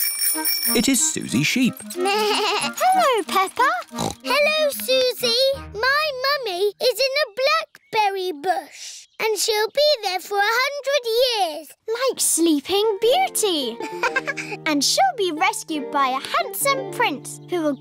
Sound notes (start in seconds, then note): 0.0 bell ringing; 3.7 snorts; 3.9 bleats; 13.8 laughs